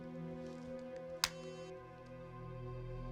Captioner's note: phone clicks shut